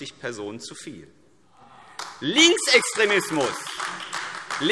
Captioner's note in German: Beifall : Ah!